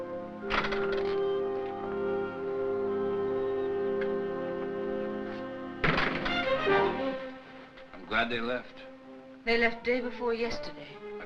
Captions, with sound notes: (door rattles) (door bangs) - I'm glad they left. - They left the day before yesterday.